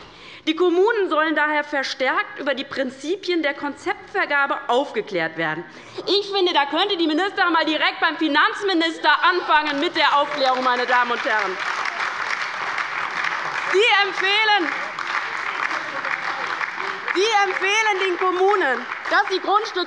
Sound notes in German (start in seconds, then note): 10.4 Lebhafter Beifall bei der LINKEN - Beifall bei der SPD